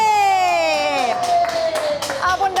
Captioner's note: applause